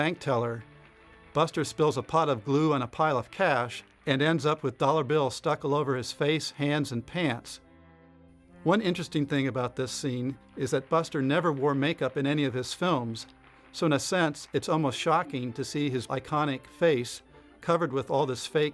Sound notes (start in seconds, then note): 4.8 applause fades; 9.0 applause